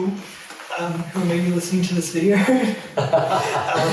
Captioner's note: both laugh